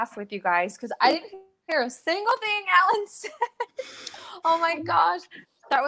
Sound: laughs

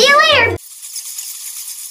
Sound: bats squeaking

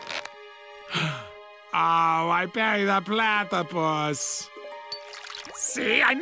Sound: gasp

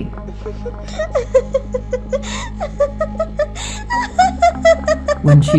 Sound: laughing crazy

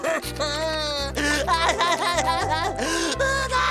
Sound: keeps crying

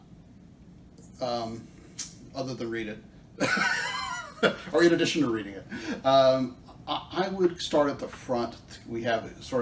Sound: laughter

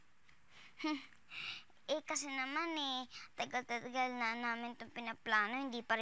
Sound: chuckles

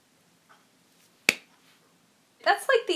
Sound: clap

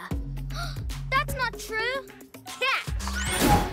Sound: gasps

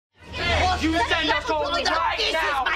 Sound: arguing

